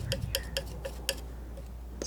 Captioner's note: tapping